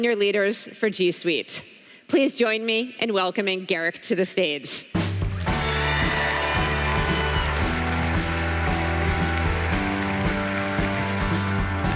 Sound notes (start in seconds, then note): 5.3 applause